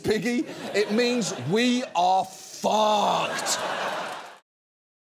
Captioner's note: audience laughs